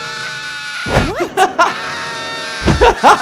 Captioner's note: Kyle screams; Kyle continues screaming; laughs